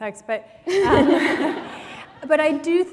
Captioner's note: laughter